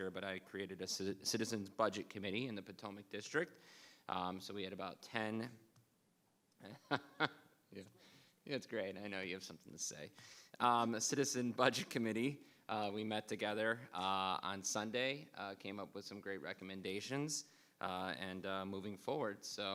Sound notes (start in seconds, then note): 6.6 laughing